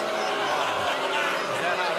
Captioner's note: booing